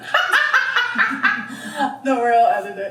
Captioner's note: laughs